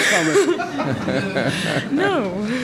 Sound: giggles

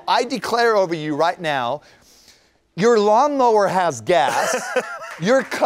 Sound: laughter / Applause

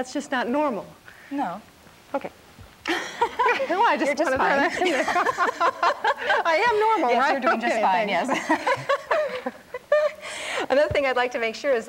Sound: both laughing

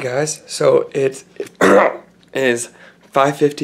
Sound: clears throat

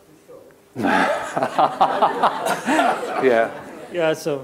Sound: laughter

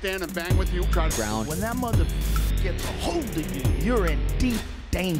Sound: beep

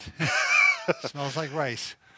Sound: laughing

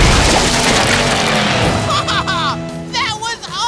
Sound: laughing

